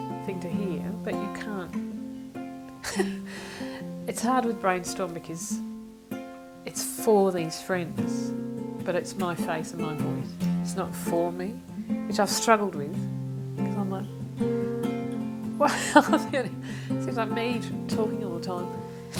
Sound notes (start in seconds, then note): 15.6 laughs